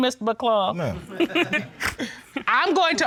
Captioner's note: all laugh